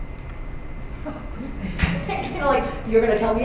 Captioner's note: laughter